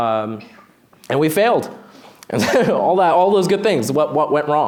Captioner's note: laughs